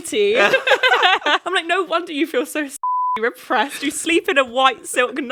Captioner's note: beep